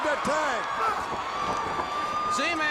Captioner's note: crowd cheering